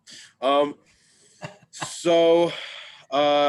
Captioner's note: laughing